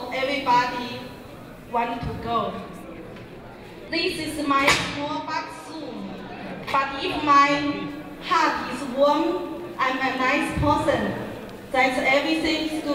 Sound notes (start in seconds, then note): 0.2 crowd talking; 3.9 speaking in Mandarin; 7.1 crowd talking; 9.6 speaking in Mandarin